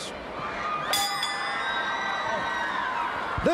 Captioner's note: bell ringing; crowd chatter